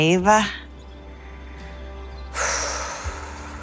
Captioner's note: exhales